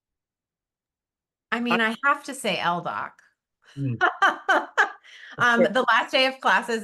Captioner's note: laughs